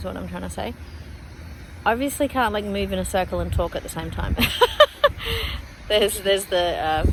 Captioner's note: cackles at self